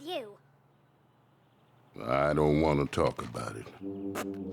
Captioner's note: deep male voice; laughs